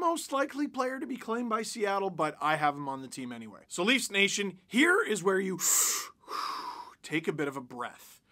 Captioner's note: deep breath